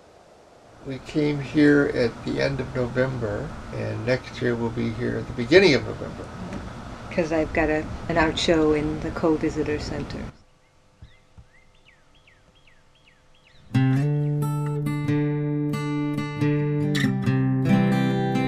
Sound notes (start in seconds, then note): 10.1 northern cardinal call; 13.6 guitar melodies